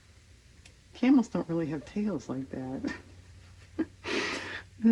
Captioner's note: laughs